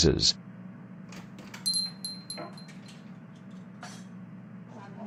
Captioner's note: door opens, bell jingles